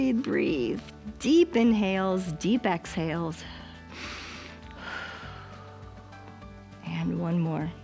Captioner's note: inhales and exhales